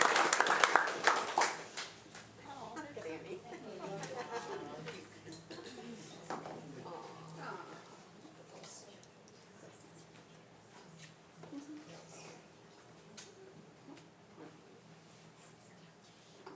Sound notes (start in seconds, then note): 2.3 indistinct conversation